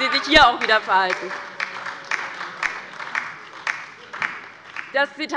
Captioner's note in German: Beifall bei der LINKEN und der SPD